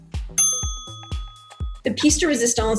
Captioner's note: bell dings